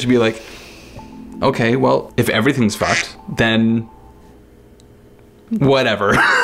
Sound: beep

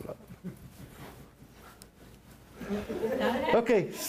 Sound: laughter

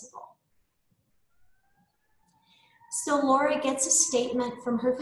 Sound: sirens

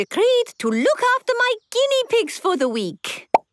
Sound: squeaking

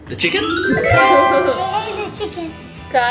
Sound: playful sound

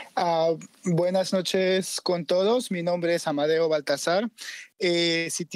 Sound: speaks in Spanish

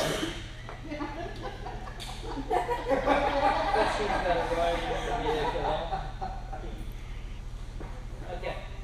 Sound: laughter

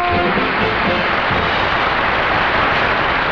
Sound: audience applauding

